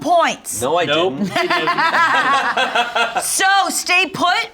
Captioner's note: all laugh